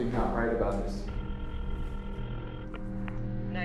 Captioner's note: ringing